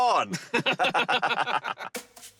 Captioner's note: both laughing